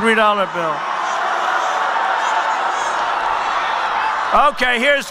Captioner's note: crowd yelling